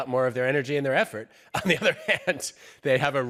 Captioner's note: laughs